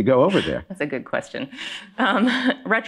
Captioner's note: chuckling